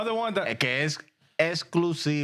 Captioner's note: speaking In Spanish